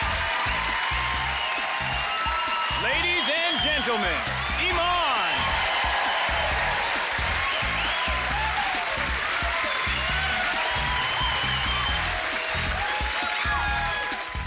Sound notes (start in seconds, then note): 4.5 applause